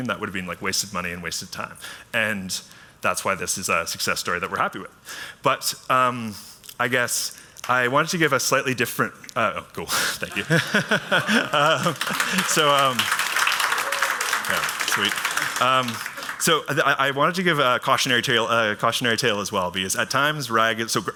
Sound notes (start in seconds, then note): 10.2 laughs; 10.4 applause